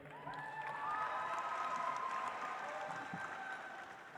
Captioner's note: audience applauds